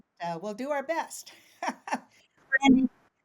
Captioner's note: chuckles